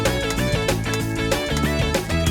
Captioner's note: none